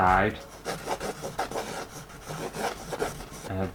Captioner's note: pen Scraping On Canvas